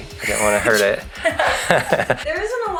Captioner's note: both laughing